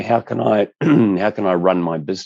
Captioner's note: clears throat